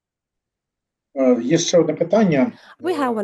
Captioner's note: non-english speech